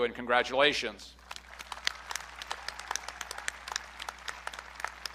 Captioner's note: audience clapping